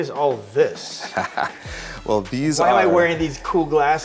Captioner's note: laughs